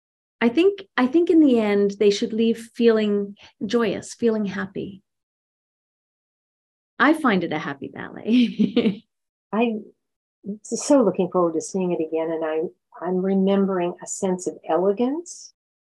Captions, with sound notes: I think in the end they should leave feeling joyous, feeling happy. I find it a happy ballet. (laughs) - I'm so looking forward to seeing it again. And I'm remembering a sense of elegance,